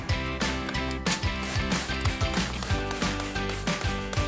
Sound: bottle spraying

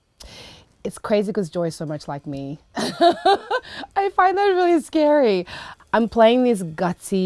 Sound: laughing

